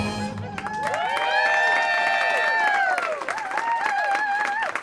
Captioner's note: audience cheering